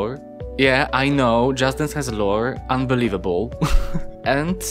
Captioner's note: laughs